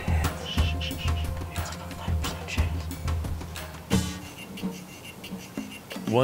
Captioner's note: whispering